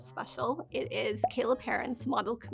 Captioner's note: graphic popping